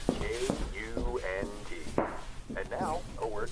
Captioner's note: steps